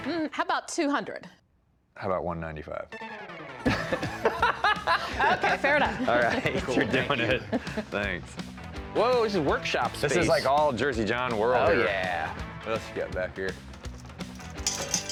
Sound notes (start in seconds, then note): 3.6 laughing